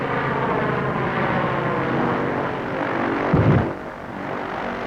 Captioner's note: plane flying